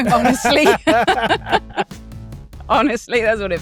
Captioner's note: chuckles